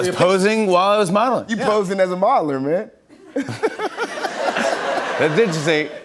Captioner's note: laughter